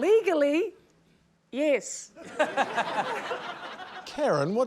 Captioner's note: laughter